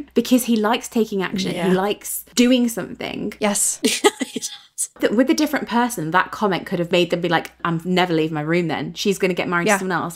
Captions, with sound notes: because he likes taking action. He likes doing something. - Yes. (laughing) - With a different person, that comment could have made them be like, I've never leave my room then. She's gonna get married to someone else.